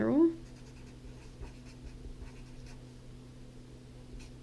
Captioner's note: pen scratching